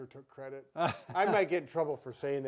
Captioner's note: laughing